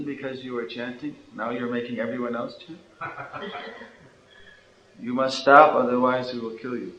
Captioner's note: devotees chuckle